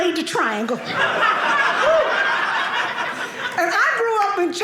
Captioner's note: audience laughing